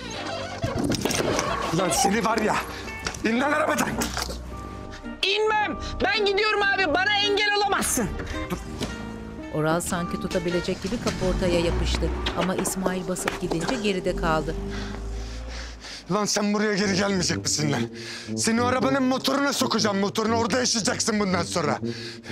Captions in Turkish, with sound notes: (Kayma sesi) (Düşme sesi) Lan seni var ya! İn lan arabadan! İnmem! Ben gidiyorum abi, bana engel olamazsın. (Araba sesi) (Ayak sesi) Lan sen buraya geri gelmeyecek misin be? Seni o arabanın motoruna sokacağım, motoruna. Orada yaşayacaksın bundan sonra.